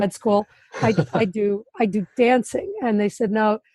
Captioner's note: laughs